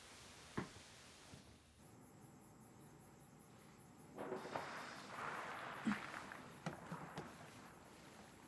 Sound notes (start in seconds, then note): 4.3 water splashing